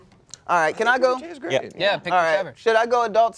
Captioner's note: various yeahs